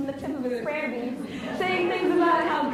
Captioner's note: laughs